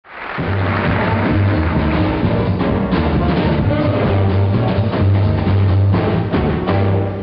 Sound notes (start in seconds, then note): 0.0 audience applauds; 0.1 big band music